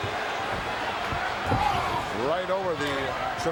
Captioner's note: audience cheering